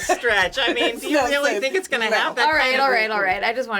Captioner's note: laughing